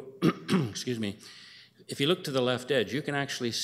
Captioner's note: clears throat